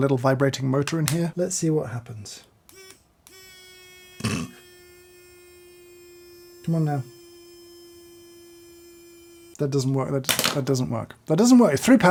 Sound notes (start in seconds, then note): 3.2 pen buzzing; 4.2 chortles; 7.8 pen buzzing